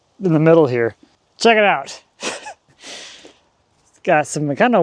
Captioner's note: laughs